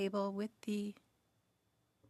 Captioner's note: speaking French